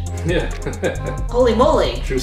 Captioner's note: laughter